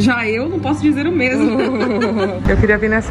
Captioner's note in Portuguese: risos